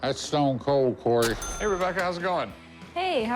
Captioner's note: cash register dings